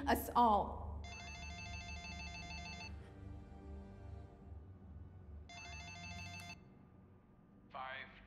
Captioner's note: phone rings